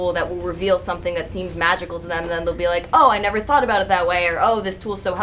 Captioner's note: none